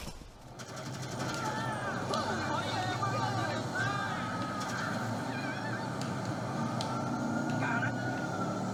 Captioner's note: sounds of a video game